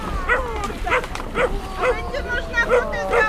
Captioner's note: confused barking intensifies